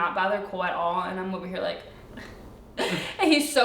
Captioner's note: crying quietly